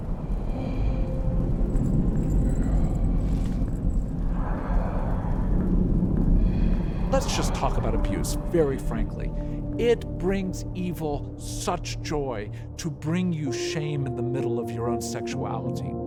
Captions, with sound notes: (chains rattling) - Let's just talk about abuse, very frankly. It brings evil such joy to bring you shame in the middle of your own sexuality.